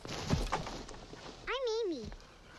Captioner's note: branch clatters